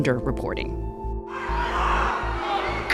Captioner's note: crowd shouting